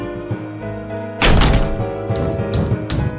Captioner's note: door Slams; The Creature knocks